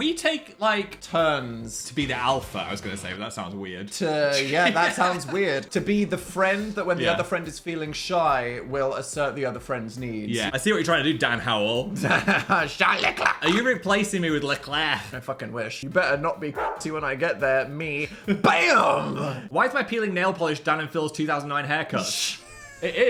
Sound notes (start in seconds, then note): 11.9 Dan laughing; 16.5 dog barking; 22.1 Dan laughing